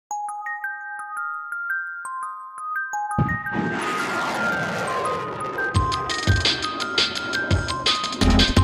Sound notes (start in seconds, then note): 0.1 soft music; 3.2 rocket blasting off; 5.0 soft music